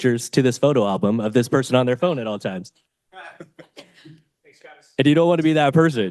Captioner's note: chuckles